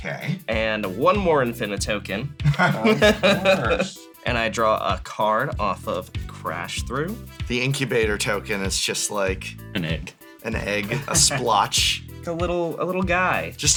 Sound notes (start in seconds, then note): 2.4 laughs